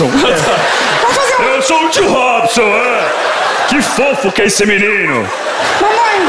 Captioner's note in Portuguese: voz grossa